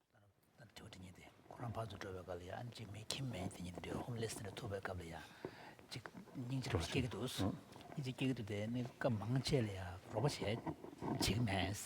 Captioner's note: foreign Language